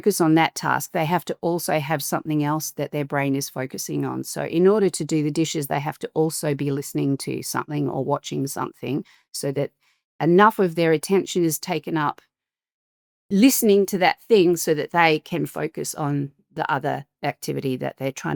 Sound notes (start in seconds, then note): none